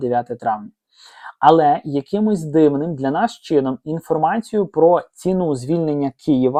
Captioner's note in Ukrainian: сопіння